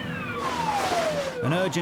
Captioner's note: water suit rustling